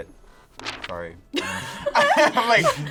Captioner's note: laughs